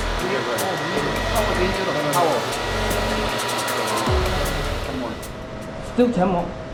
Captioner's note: machine humming